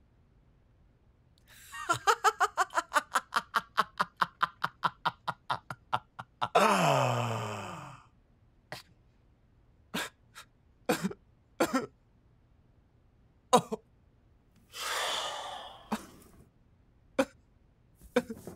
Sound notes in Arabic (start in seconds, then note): 1.6 يضحك; 9.4 بكاء; 14.7 تنهد